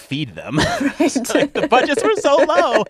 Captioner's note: laughter